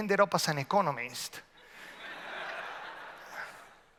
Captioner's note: audience laughs